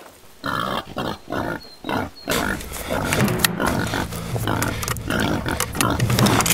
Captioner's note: twigs crunching; grunts